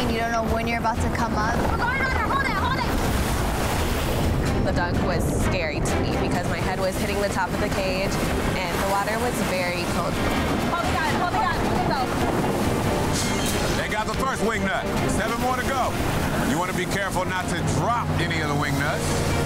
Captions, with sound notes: you don't know when you're about to come up. - We're going under, hold it, hold it! (water rushing) (water gurgling) - The dunk was scary to me because my head was hitting the top of the cage and the water was very cold. (urgent music) Hold it high, hold it up! (metal clanging) - They got the first wing nut. (hands clapping) Seven more to go. (boat engine rushing) You wanna be careful not to drop any of the wing nuts.